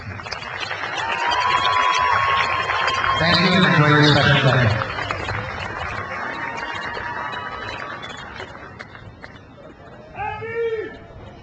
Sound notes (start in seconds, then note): 0.2 crowd cheers; 6.5 crowd applauds